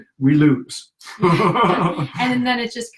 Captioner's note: laughing